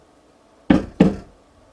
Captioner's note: banging